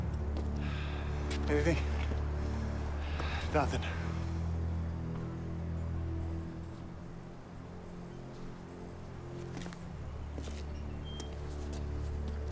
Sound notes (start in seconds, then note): none